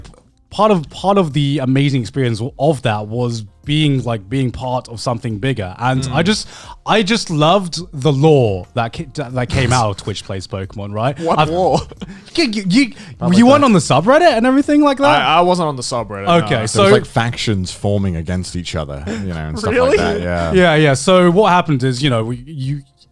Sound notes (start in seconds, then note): 5.9 affirmative murmuring